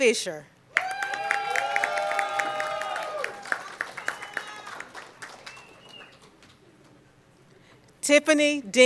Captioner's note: cheering and Applause